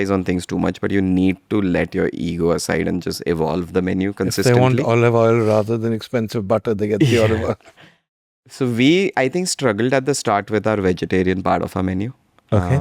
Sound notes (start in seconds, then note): 7.0 laughs